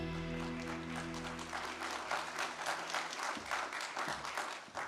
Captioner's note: audience applauding